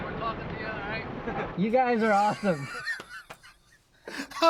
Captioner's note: laughs